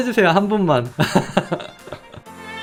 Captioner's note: laughing